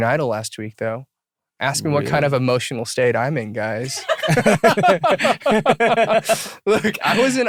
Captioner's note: laughter